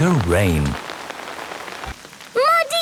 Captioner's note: downpouring